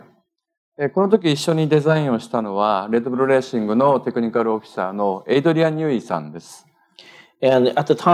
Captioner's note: speaking japanese